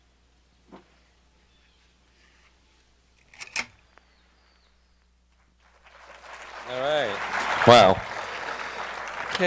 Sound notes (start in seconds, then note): 3.5 clicking; 5.6 applause